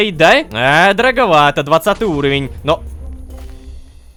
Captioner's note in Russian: Звук взрыва